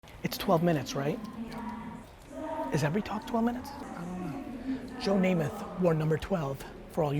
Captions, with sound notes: - It's 12 minutes, right? (woman speaking afar) Is every talk 12 minutes? - I don't know. - Joe Nameth, you are number 12.